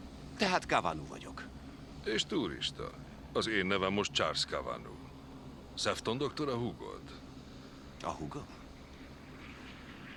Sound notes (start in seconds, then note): none